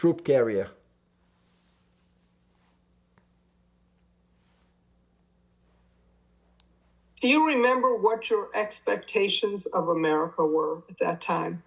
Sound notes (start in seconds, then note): 1.0 pauses 6 seconds